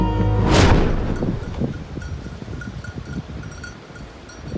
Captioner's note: bells tinkling